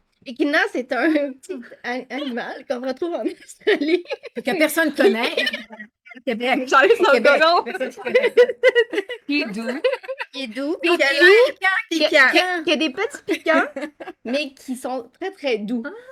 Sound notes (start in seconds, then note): 6.7 brouhaha